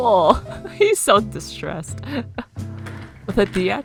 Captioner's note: laughs